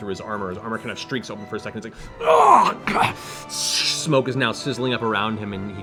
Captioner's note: pained grunt